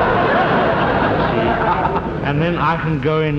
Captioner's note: audience laughs